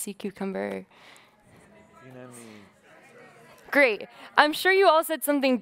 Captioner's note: muffled shouting